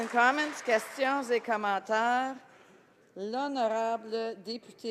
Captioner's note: some applause